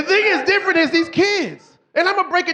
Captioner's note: audience cheering